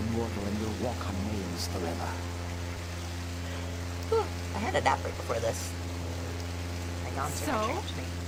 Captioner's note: yawns